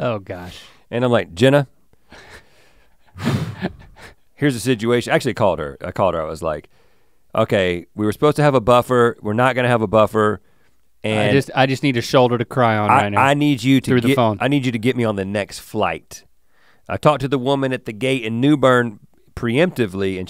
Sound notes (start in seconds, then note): 3.1 sighs